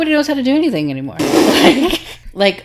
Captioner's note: laughing